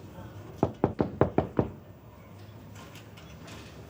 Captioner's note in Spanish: Toques en la puerta